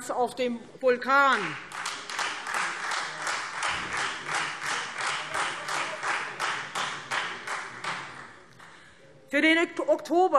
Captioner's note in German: Beifall Freie Demokraten